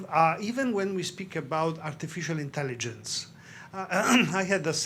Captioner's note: clears throat